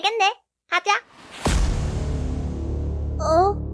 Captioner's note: evil sound